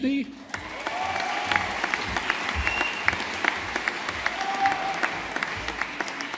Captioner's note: audience applauding